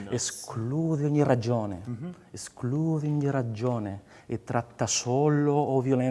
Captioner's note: speaks in foreign language